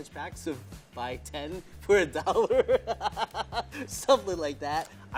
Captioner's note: laughing